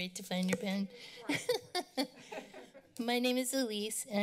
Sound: laughter

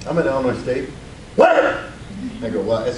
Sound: yells

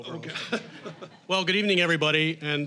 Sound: audience chuckling

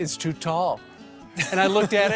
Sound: laughter

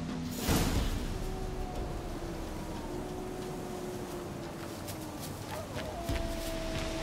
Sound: distant howling

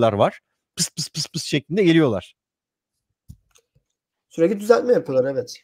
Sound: pssst pssst

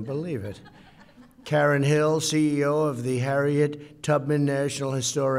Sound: laughter

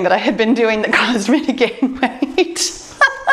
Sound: laughs

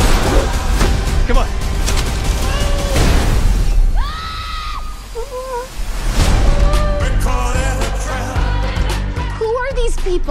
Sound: scream

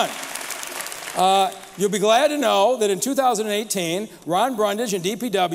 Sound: applause

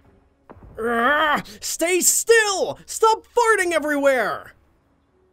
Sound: groans

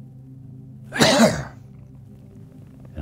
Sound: coughs

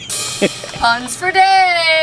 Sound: rim shot; laughing

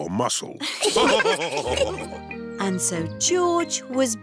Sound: laughs; all laughing

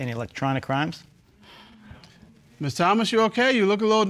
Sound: exhales

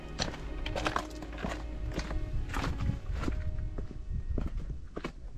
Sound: footsteps descending

